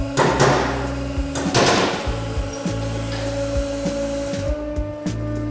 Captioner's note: piston breaking sound